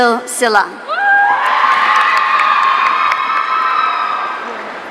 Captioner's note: audience cheering